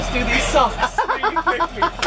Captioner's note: laughter